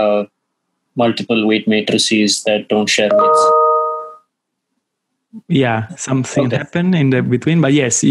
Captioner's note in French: Bruit aigüe